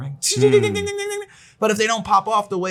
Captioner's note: imitating bell ringing